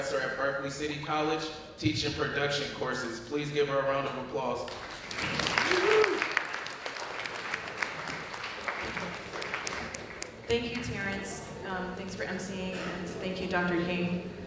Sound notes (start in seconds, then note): 4.6 applause